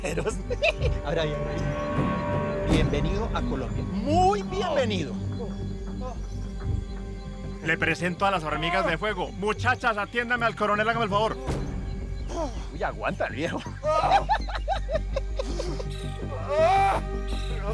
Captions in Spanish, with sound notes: ABRE AHÍ, ABRE AHÍ. BIENVENIDO A COLOMBIA, ¡MUY BIENVENIDO! LE PRESENTO A LAS HORMIGAS DE FUEGO. MUCHACHAS, ATIÉNDANME AL CORONEL. HÁGANME EL FAVOR. ¡UY! AGUANTA EL VIEJO. [Carcajada] [Quejidos]